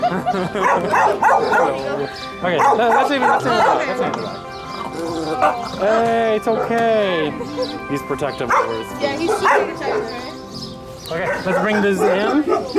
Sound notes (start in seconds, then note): 0.0 laughter; 2.5 barks; 4.7 grumbling; 10.0 chirps; 11.2 barks